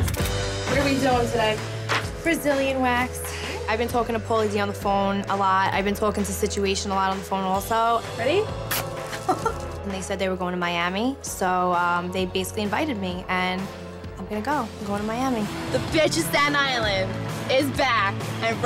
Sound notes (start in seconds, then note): 8.6 wax strip ripping